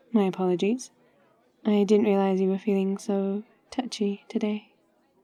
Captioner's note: none